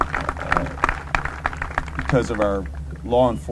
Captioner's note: applause